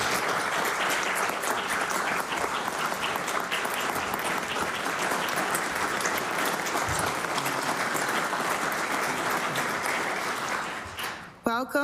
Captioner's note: applause